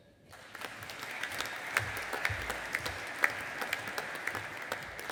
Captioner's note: audience applauding